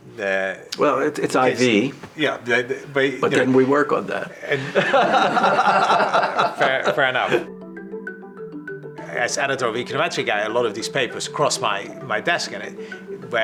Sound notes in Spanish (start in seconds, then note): 4.4 risas